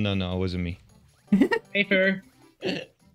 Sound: giggles

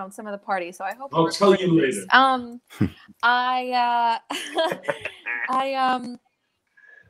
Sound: laugh

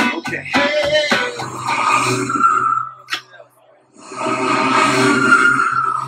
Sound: sound of a spaceship flying

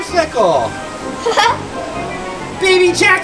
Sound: laughs

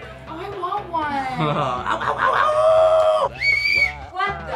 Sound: Donny howls; Dave whistles

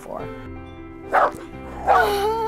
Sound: dog barking

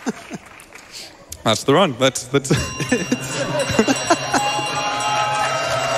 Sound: laughs

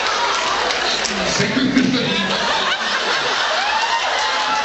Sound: laughing; laughs

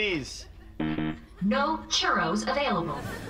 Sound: beeping

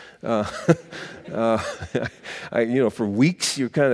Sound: laughing

